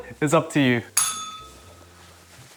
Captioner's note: bell rings